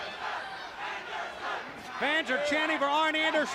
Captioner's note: crowd cheering